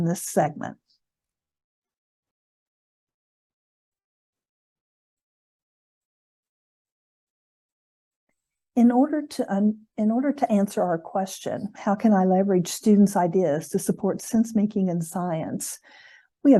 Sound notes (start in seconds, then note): 5.1 silence